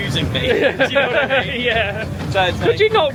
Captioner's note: laughs